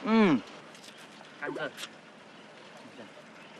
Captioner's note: chew